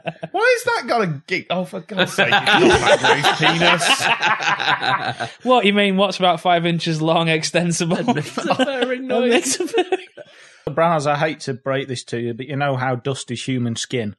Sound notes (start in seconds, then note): 0.0 laughter; 3.8 laughter